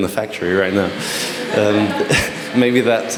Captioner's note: chuckles; laughter